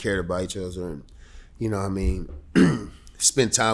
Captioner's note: clears throat